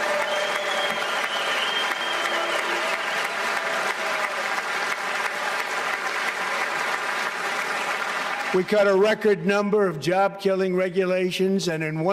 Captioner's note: applause